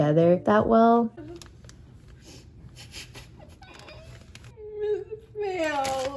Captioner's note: sniffles and cries